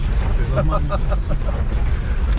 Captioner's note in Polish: śmiech